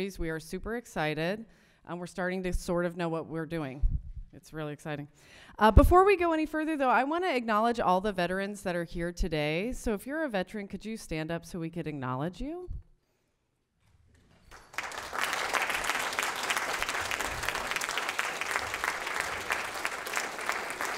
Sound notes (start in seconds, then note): 14.4 group applause